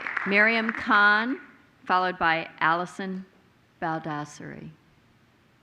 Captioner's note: applause